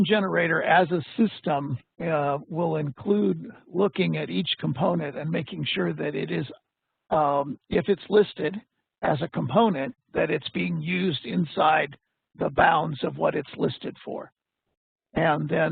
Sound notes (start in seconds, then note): none